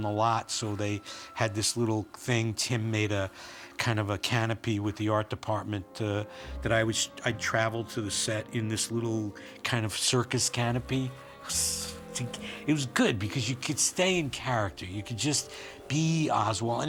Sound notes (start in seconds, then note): 11.4 DeVITO HISSES